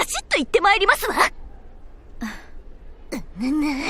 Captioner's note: sigh